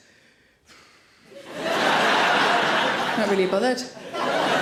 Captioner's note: audience laughs